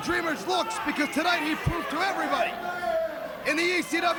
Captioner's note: crowd cheering